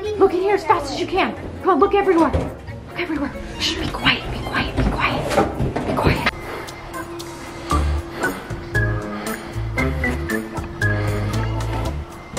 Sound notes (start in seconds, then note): 2.9 whispering; 5.4 drawers banging; 6.1 heavy breathing